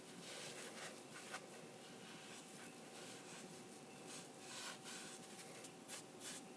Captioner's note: quiet rubbing